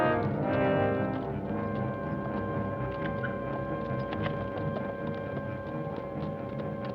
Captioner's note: suspenseful orchestral music; distant hooves clop